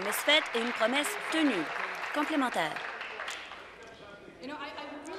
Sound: applause

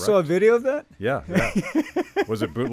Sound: laughing

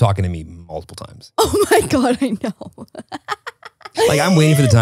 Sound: laughs

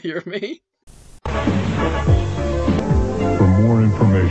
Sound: stations changing rapidly

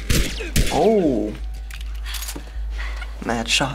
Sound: gunfire; cocking gun

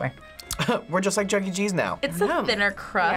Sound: chuckles

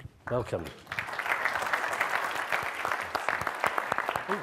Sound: audience claps

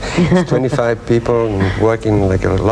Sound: laughs

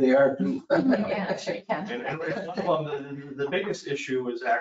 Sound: laughing

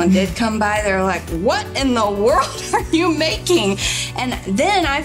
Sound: laughing

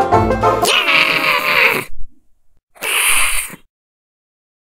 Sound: screams and growls

